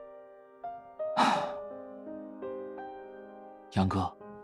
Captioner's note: sigh